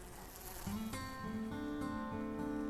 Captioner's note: fly buzzing